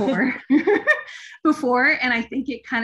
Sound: giggling

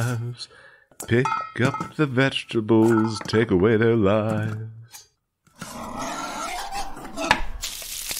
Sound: A potato-tomato monster squeals

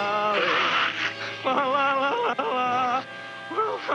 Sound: slurping

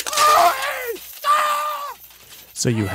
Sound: man screaming

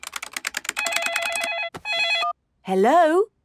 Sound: phone ringing

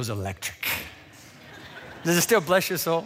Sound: laughter

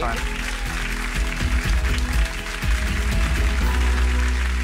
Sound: audience applauds

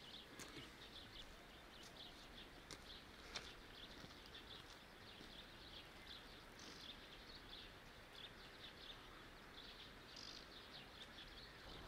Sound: sound of nature

